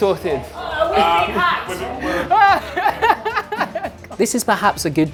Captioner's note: laughing